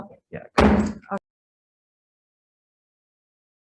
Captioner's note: gavel bangs